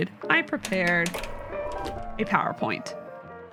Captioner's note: projector lowering